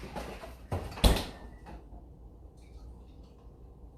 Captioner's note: door banging